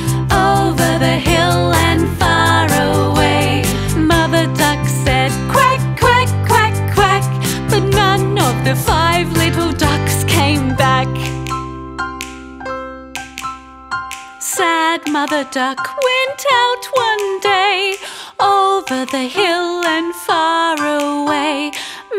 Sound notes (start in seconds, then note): 11.6 fingers clicking; 11.6 gentle music continues